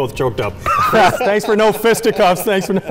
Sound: laughing

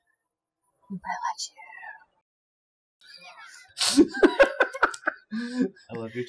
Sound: whispers

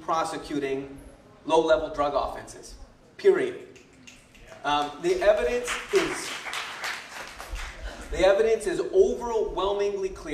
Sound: applause

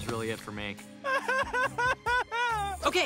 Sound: sobbing

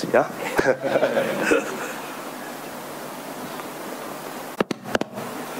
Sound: audience laughing

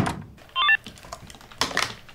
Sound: text message chime

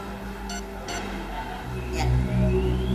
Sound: watch beeping

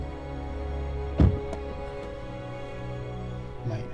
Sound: car door slams shut

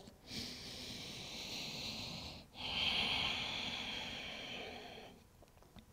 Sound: heavy breathing

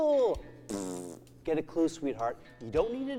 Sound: fart sound

